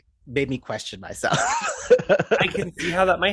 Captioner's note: laughing